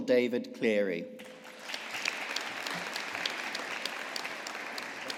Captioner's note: audience applauding